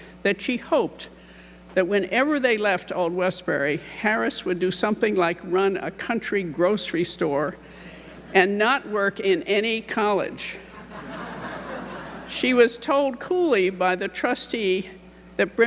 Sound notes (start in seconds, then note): 10.7 audience laughing